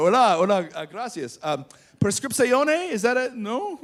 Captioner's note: speaking Spanish